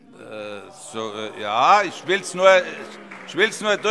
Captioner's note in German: Vereinzelter Beifall - Zurufe: Oh!